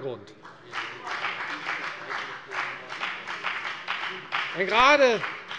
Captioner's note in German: Beifall bei der FDP